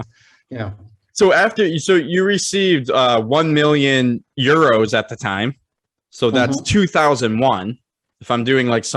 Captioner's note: chuckles